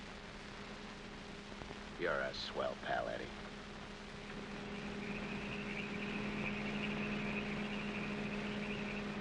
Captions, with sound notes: You're a swell pal, Eddie. (crickets chirping) (engine humming)